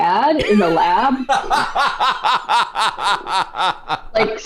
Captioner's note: laughter